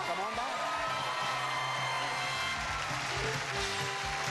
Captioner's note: crowd cheers